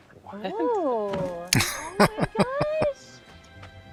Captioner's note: laughing